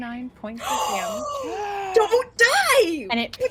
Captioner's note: gasps